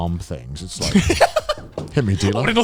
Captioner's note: laughs